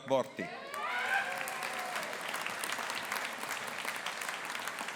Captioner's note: audience applauding